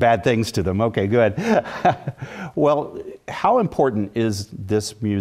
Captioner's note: laugh